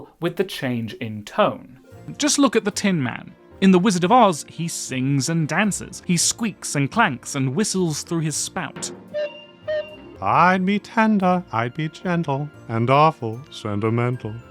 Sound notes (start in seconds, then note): 9.0 toot, toot